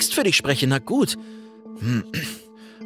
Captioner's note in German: Räuspern